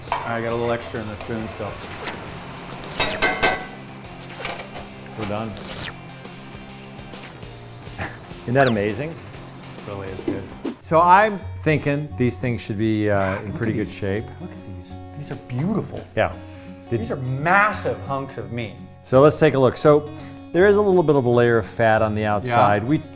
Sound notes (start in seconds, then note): 2.0 metal banging; 2.0 slurping